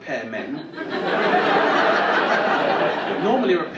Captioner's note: audience laughing